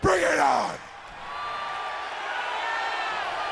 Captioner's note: crowd cheering